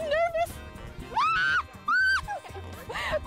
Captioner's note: screams; giggles